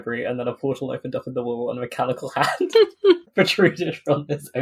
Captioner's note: laughing